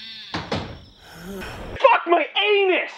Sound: sighing

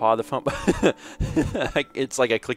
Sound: laughs

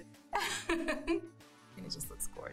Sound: laughing

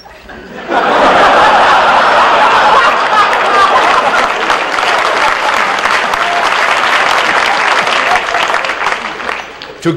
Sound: laughter and applause

